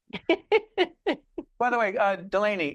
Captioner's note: laughing